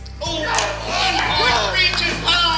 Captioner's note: yelling and clapping in audience